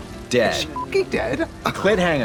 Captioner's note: beep